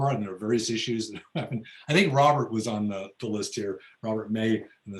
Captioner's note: laughs